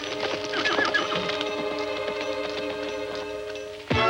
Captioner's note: horse neighing